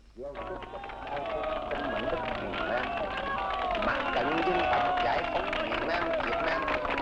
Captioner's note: cheering and clapping; speaking foreign language